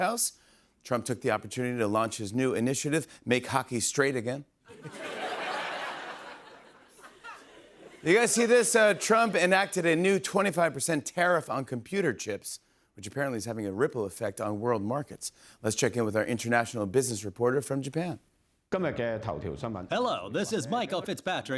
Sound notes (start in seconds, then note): 18.4 speaking Japanese